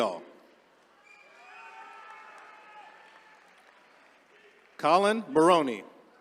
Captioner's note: attendees cheering